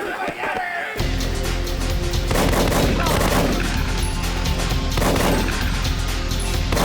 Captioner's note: dramatic music; gunshots blasting